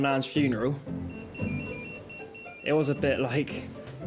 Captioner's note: pager beeps